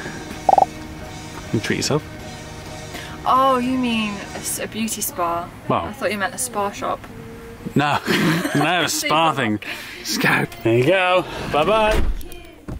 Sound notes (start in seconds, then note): 7.9 laughing